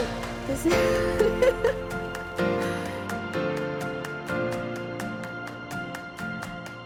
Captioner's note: laughs; upbeat music